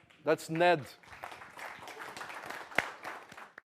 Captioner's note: applause